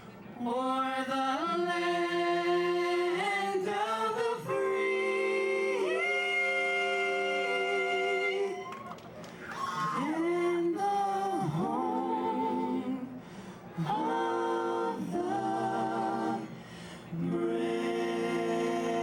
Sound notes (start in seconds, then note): 8.4 attendees cheering; 13.5 attendees cheering